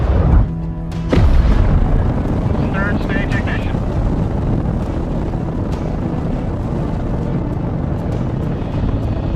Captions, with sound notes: (engine blasting) Third stage ignition.